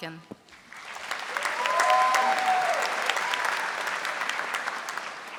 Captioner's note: audience applauding